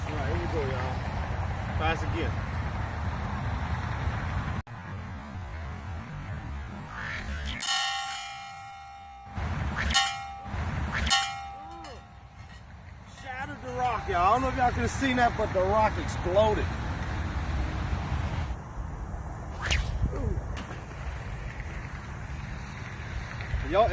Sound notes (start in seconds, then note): 6.9 sling whips; 7.9 metal ringing; 9.6 sling whips; 11.3 metal ringing; 11.3 sling whips; 19.5 sling whips; 21.8 splash